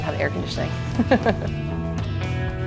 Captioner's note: laughs